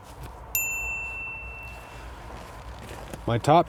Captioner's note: bell dinging